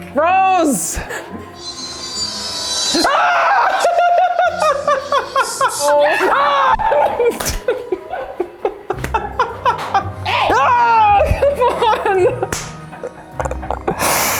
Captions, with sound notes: Rose! AHHHHHH! (laughing) (screams) HEY! -Ahhh! Come on!